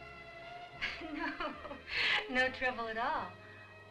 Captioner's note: chuckles